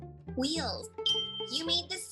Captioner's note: bell chimes